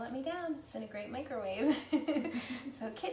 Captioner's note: laughs